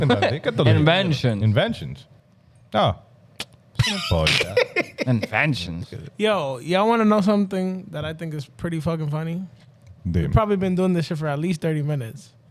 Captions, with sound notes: Inventions. Inventions. Oh. (Laughing) Inventions. Yo, y'all wanna know something that I think is pretty fucking funny? Probably been doing this shit for at least 30 minutes.